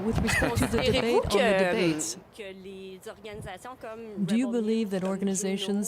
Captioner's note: speaking French